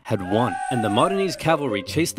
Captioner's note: army cheering